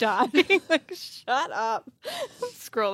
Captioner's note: laughs